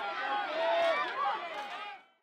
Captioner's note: crowd cheering